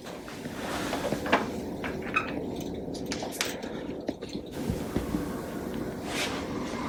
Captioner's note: ambient lab noices